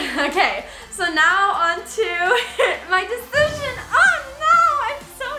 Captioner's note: laughs; laughs